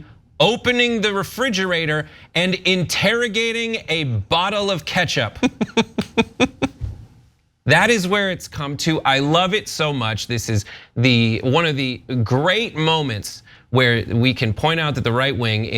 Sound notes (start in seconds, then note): 5.4 laugh